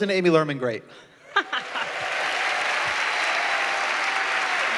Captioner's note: applause